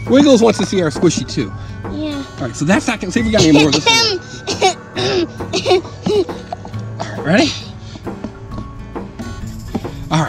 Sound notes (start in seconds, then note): 6.0 Assistant clears throat